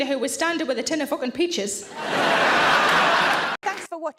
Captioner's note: audience laughing